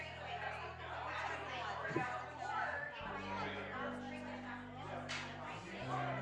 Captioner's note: group chattering indistinctly